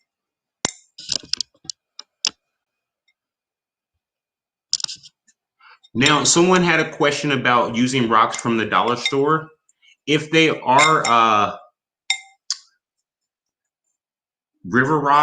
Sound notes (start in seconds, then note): none